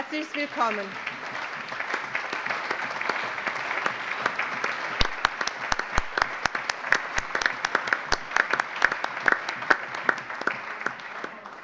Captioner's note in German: Allgemeiner Beifall